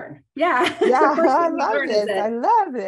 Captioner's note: laughs